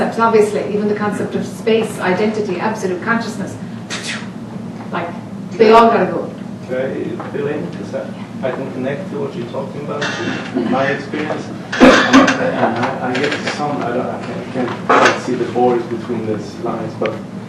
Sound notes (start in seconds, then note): 3.6 blows air; 11.6 coughs